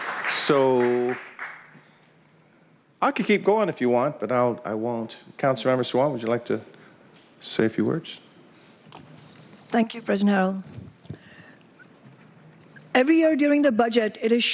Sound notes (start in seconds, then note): 2.1 cheers and applause